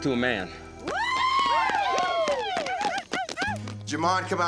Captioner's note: cheering, applause